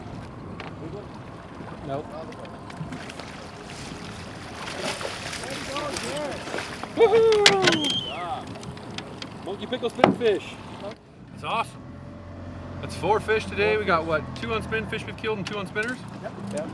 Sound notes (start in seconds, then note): 5.1 fish splashing; 6.9 whooping